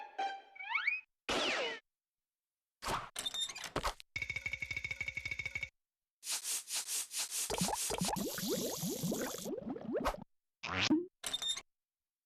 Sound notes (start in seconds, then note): 7.5 bubbling